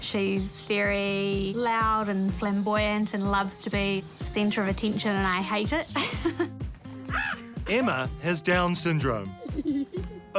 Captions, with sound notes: - She's very loud and flamboyant and loves to be the centre of attention, and I hate it. (LAUGHS) - Emma has Down's syndrome.